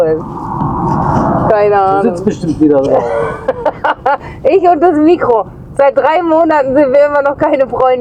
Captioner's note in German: gelächter